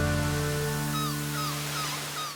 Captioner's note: seagull calls